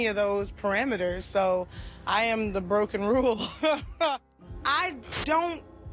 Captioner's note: laughs